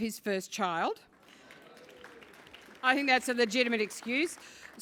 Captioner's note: applause